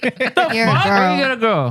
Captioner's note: laughing